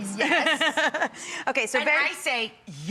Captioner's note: laughing